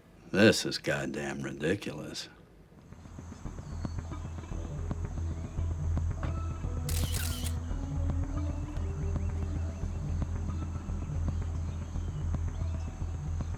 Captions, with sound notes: - This is goddam ridiculous. (tense music) (camera shutter clicks)